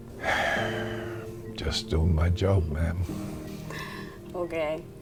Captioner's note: sighs